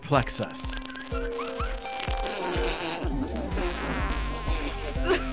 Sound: laughing

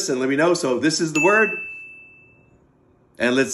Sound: bell chimes

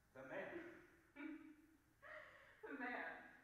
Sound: Popova laughing bitterly

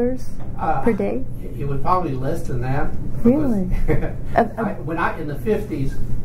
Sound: laughs

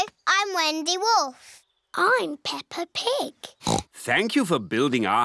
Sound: oinks

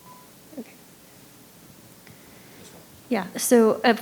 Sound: microphone beeping

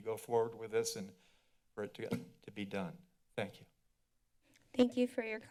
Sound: thuds

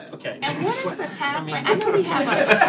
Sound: laughter

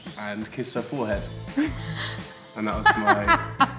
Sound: laughs

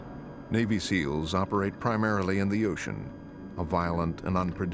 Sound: voiceover

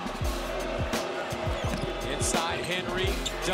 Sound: cheers

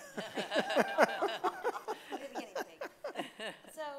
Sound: laughing

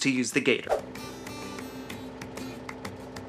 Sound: engine running

